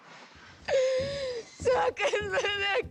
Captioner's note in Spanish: Sollozos